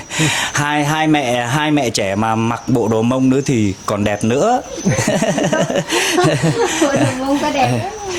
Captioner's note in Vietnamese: tiếng cười